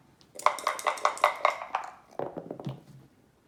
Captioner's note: dice shaking